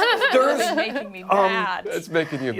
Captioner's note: laughter